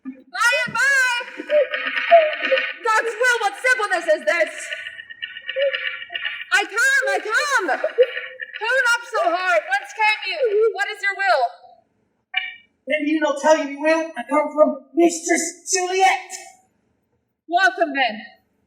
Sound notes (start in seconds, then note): 4.4 knocking